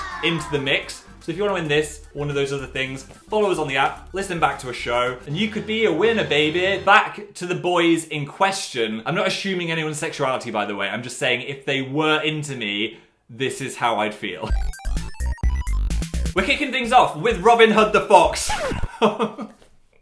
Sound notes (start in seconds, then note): 18.6 record scratches